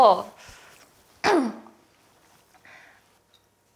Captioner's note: clears throat